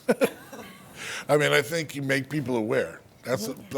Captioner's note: laughter